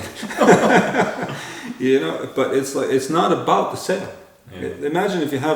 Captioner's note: laughter